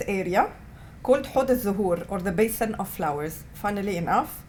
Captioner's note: non-english